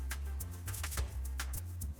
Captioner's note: footsteps